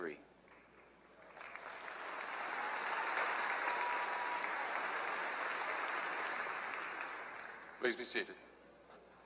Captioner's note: applause